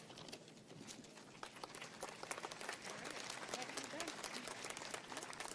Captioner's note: audience applauds